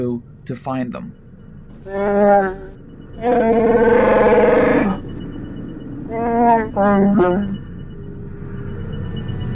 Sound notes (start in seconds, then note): 3.2 growl